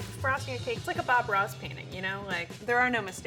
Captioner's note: none